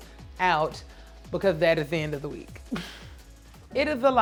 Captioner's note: laughing